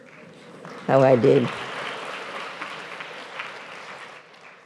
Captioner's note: applause